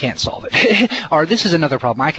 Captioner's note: heh heh